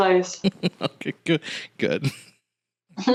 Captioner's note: laughing